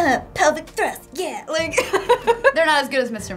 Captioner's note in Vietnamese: cười